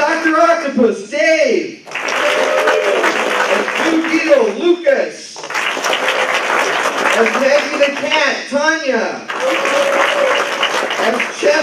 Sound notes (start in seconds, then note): 1.8 applause